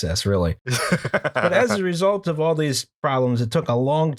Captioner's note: laughter